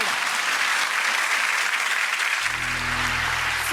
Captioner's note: applause